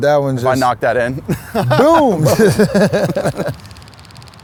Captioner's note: laughs